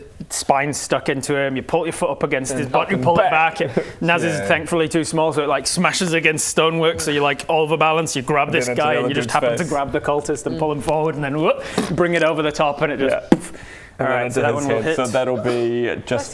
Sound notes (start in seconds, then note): 13.2 boof; 15.9 achoo!